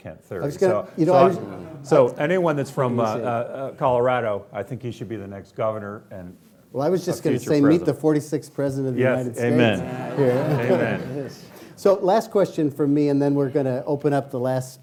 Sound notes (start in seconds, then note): 9.5 laughing